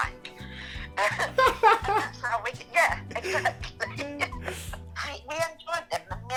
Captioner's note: both of them laugh